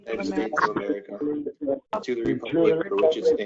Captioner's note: chatter